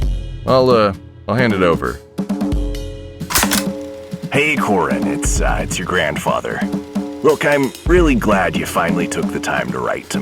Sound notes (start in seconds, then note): 3.3 click